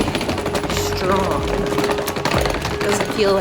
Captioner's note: suitcase rolling